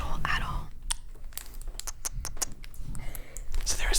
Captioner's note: soft kissing